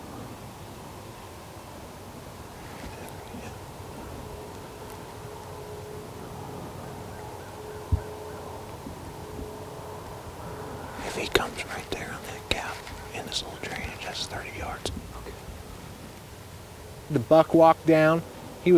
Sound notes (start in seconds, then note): 11.4 whispering; 15.4 whispering